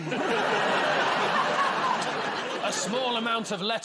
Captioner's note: laughter